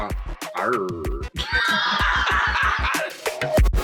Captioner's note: laughs